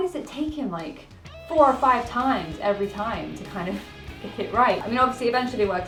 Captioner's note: laughs